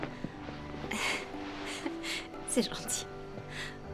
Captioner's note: chuckling